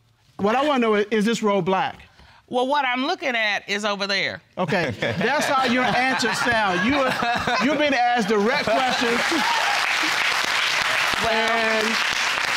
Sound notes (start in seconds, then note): 4.7 laughter; 9.5 audience applauding